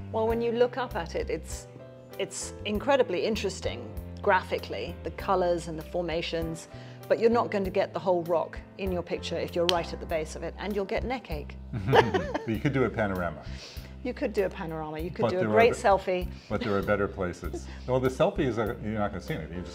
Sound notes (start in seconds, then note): 11.7 both chuckle